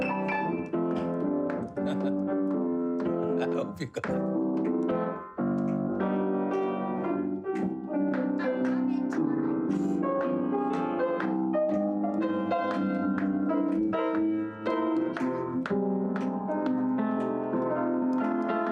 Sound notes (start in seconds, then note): 1.8 chuckling; 5.2 ragtime piano music